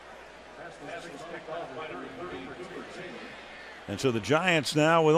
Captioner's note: pa announcement